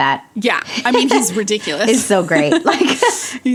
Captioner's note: both laugh